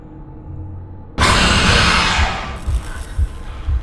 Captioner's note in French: Le monstre hurle; Battement de coeur rapide